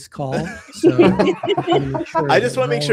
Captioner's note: laughter